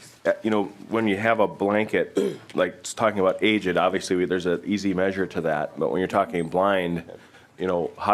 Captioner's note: laughing